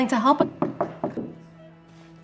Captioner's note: door knocks